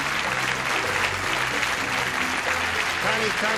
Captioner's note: applause